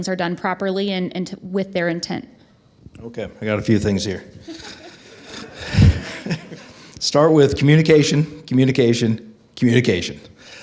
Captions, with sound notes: are done properly and with their intent. - Okay, I got a few things here. (attendees laugh) Start with communication, communication, communication.